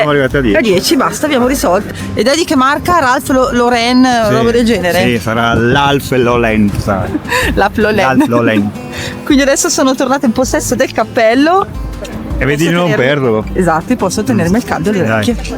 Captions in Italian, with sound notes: arrivati a 10 a 10 basta, abbiamo risolto. Ed è di che marca? Ralf Loren roba del genere. Sì, sarà l'Alf Lolenza. Laf [risate] Lol. Lol. Quindi adesso sono tornata in possesso del cappello e vedi di non perderlo. Esatto. Posso tenermi il caldo le orecchie.